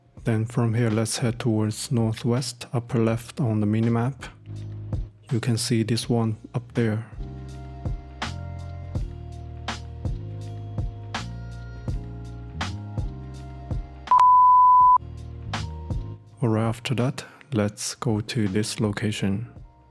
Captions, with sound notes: Then from here, let's head towards north west, upper left on the minimap. You can see this one up there. (Beep...) Alright, after that, let's go to this location.